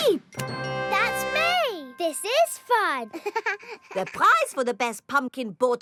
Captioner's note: chuckles